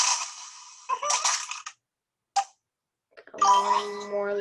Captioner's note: game objects popping